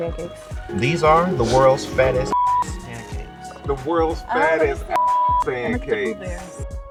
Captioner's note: boop